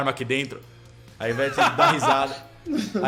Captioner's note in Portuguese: risos